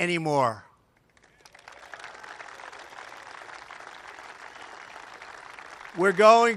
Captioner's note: applause